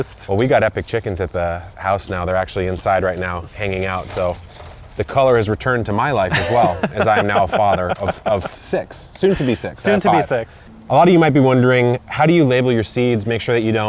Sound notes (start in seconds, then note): 6.2 laughs